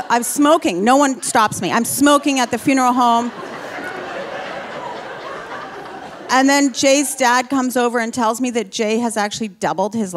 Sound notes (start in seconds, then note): 3.6 audience laughing